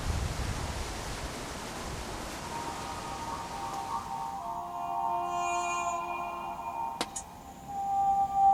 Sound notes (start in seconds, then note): 3.5 phone ringing